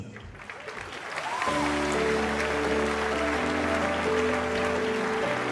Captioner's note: applause